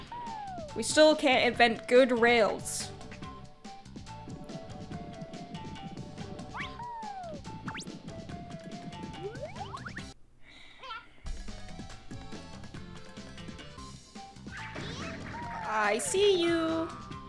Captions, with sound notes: We still can't invent good rails. [SIGHS] I see you!